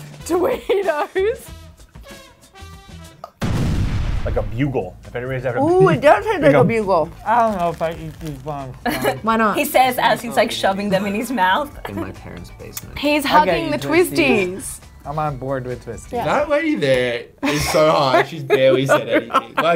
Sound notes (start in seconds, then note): 0.0 laughing; 3.4 explosion